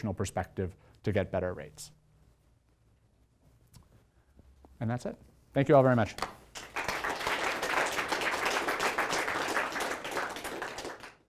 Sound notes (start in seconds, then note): 6.2 applause